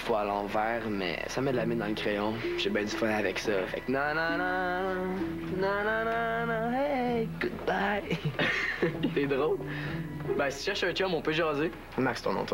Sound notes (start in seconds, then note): 8.1 Ils rigolent